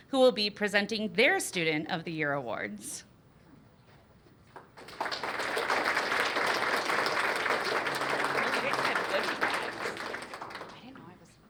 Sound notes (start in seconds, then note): 4.5 applause